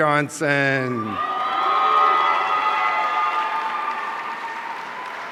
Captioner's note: audience cheering